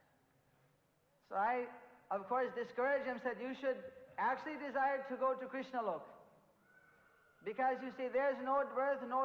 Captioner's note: in Hindi